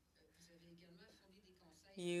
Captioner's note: speaking french